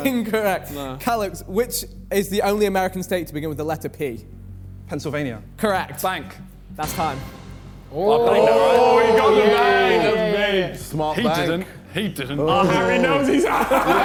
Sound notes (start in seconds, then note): 7.9 men cheering; 12.4 men laughing